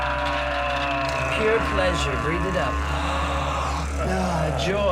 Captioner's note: both Grunting; 两人都咕哝着; inhales; 吸气